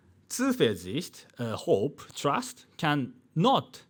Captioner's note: man speaking in foreign language